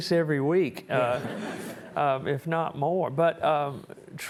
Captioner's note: audience chuckling